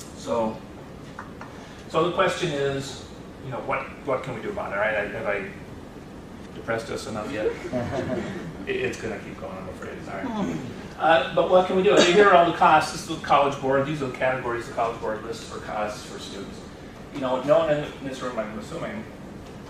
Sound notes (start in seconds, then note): 7.3 laughter